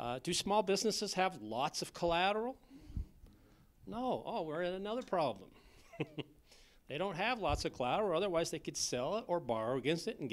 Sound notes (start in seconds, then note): 5.8 laughter